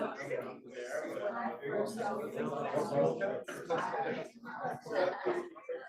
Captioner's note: students chattering